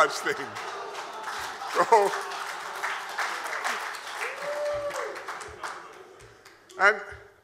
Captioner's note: applause and cheers